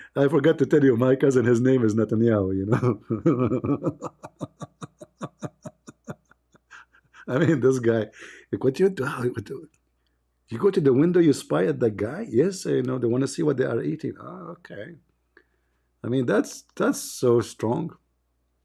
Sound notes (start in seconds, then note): 2.7 Ketawa